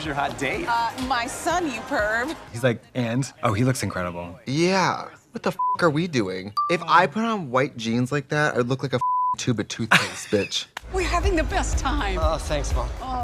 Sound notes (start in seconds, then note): 6.5 beep; 9.0 beep